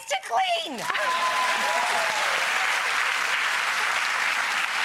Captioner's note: audience clapping